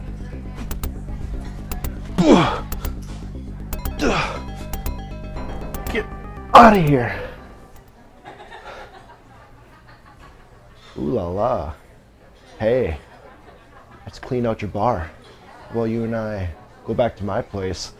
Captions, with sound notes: *pow* Gah! Get out of here! Oh la la! Hey! I just cleaned out your bar How about you and I go back to my place